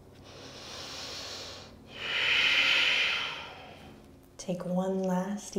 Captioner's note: heavy breathing